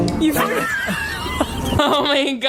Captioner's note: all laughing